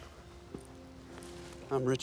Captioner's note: footstep